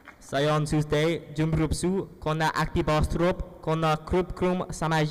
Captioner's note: speaking in foreign language